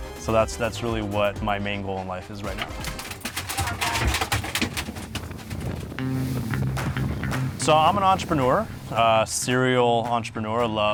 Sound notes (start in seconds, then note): 2.4 fish clanking; 6.6 upbeat music